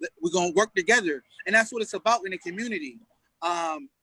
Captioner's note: none